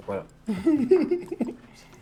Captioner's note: laughs